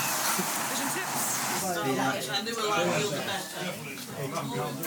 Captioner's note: quiet background chatter